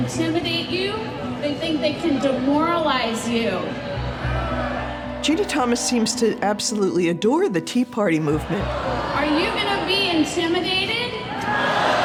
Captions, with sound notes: >> They think they can intimidate you, they think they can demoralize you. (crowd cheering) >> Ginni Thomas seems to absolutely adore the Tea Party movement. >> Are you going to be intimidated?